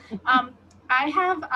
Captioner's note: laughs